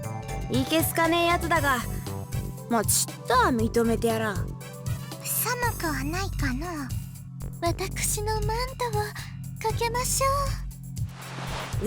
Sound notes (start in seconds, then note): 5.4 whisper